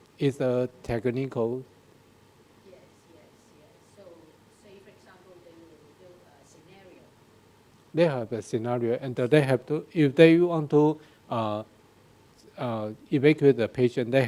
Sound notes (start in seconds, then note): 2.6 woman speaking in background